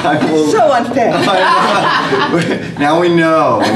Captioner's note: laughter